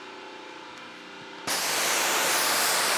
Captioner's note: motor whirring